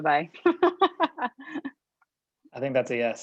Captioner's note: laughs